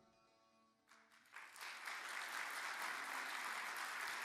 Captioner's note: audience applauds